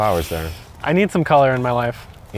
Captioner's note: inhales through teeth